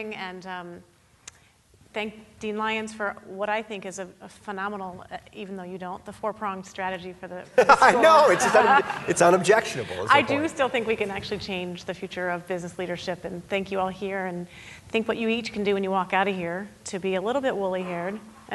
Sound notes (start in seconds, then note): 7.6 laughing